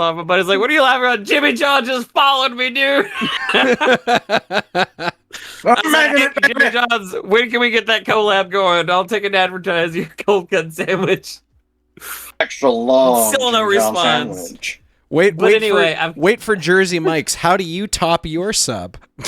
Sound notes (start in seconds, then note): 5.1 laughing